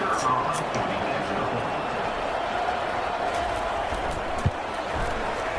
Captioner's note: crowd Noises